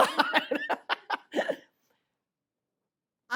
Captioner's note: laughter